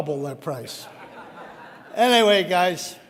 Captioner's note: audience laughing